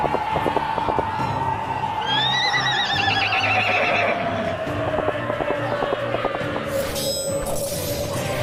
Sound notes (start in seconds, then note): 0.0 battle sounds